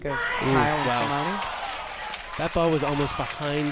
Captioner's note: crowd applauds